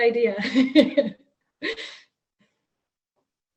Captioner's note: laughs